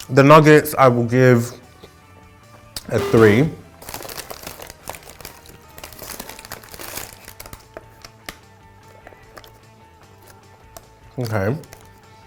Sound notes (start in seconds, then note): 2.9 error bell